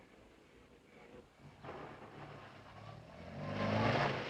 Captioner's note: engine revs